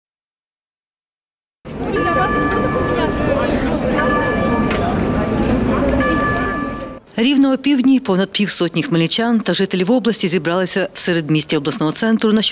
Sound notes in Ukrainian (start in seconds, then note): 1.7 годинник на башті б'є дванадцять, звуки міста